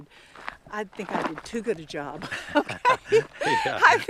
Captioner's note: laughing